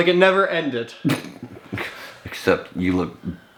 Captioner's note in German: kichert